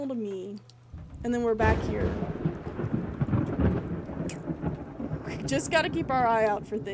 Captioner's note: thunder rumbling